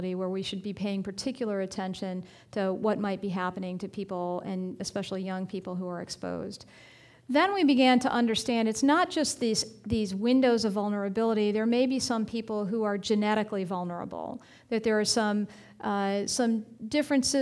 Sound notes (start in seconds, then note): none